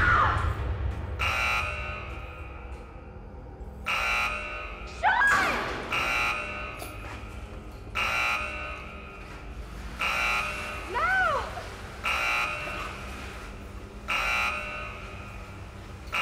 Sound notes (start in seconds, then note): 2.0 alarm blaring; 13.5 alarm blaring